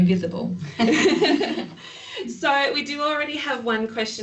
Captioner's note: ladies laughing